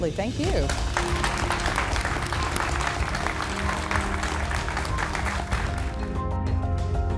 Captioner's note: applause